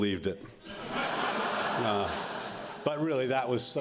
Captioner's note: laughter